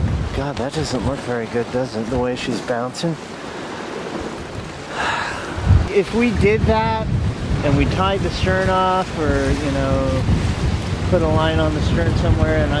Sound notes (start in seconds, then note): 4.8 sighs